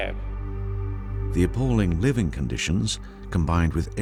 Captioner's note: dramatic ambient music; voiceover